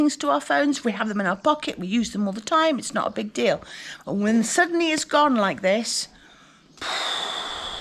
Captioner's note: sigh